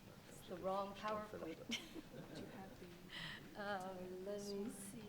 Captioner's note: chuckles